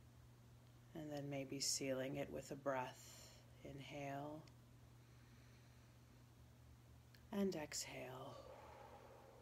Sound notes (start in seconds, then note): 5.8 inhaling